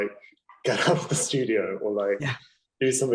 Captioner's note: laughing